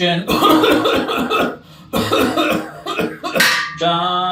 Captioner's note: coughing violently